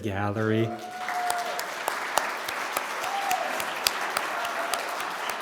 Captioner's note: attendees cheer and clap